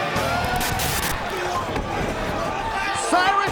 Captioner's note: static hissing